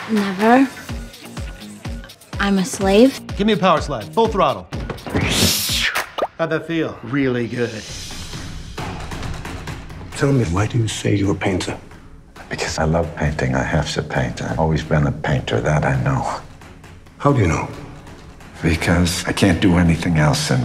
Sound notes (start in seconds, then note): 5.1 exhales